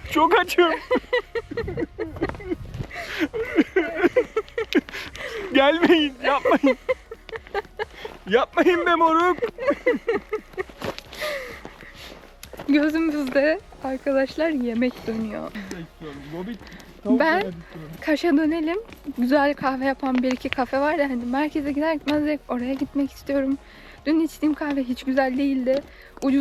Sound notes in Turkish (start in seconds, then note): 0.4 kahkaha; 9.3 kahkaha